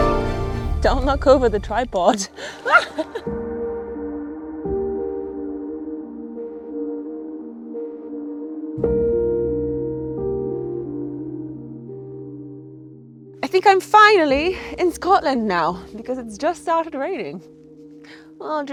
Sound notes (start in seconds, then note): 2.4 laughs; 3.8 soothing music